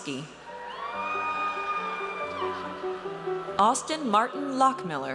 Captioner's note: audience cheers